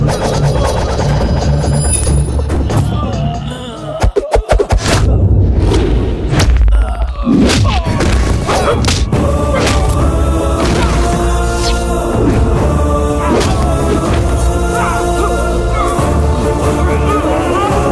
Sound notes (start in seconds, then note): none